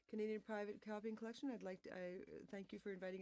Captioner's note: speaking French